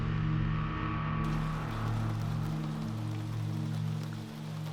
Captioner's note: rain pattering